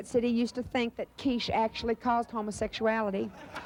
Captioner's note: audience laughter